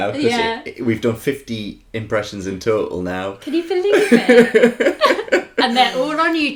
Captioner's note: laughter